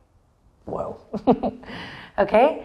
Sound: chuckles

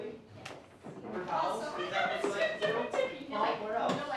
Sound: giggling

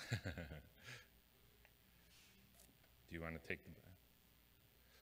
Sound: laughs

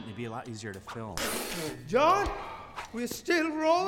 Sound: spit

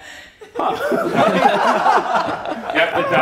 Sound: all laugh

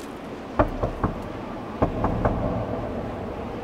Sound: knocking

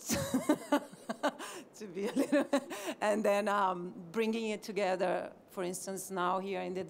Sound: laughter

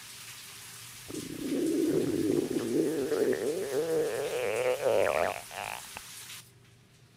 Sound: Max's stomach growling

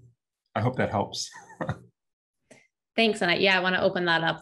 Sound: laughs

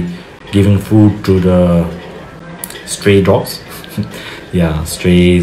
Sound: chuckles

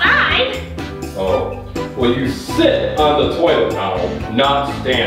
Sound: voiceover

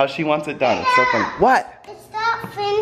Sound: baby screaming

